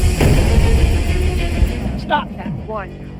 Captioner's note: power booming